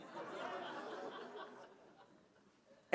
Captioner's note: laughter